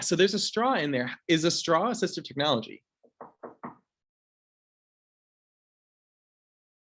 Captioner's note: knocking